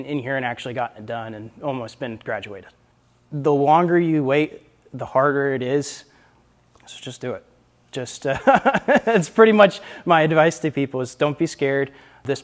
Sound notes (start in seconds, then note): 8.3 laughs